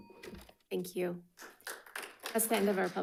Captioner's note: audience applauding